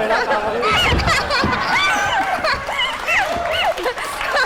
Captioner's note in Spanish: risa